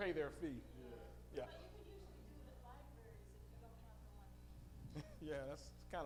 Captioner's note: female audience member speaking